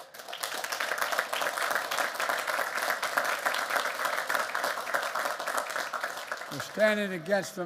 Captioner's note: applause